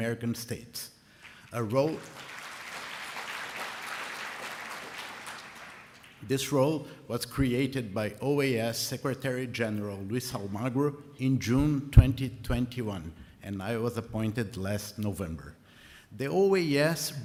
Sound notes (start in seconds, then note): 4.2 applause